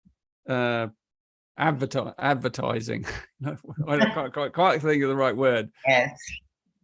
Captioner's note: laughs